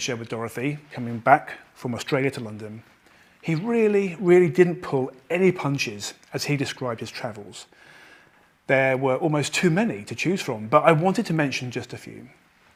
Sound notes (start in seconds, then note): none